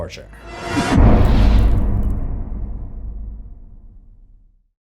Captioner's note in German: impact